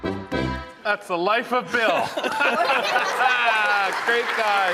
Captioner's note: mischievous folk music; attendees laughing; audience cheering